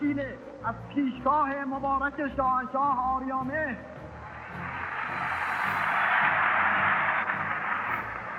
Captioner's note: applause